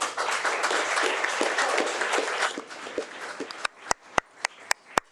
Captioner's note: audience applauding